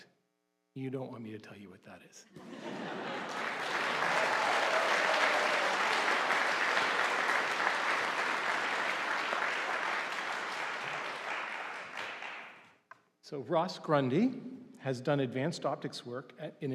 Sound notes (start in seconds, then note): 3.7 audience applauding